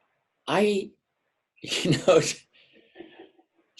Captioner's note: laughs; person laughing in background